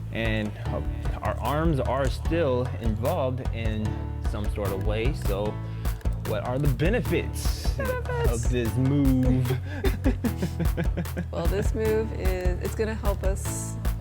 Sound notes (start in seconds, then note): 9.1 both laugh